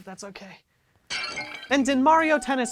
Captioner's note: crashing sound